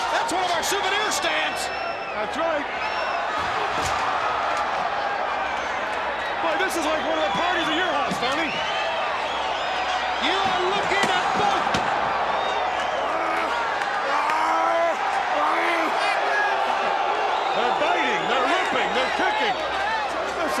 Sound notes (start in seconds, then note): 10.5 crowd cheering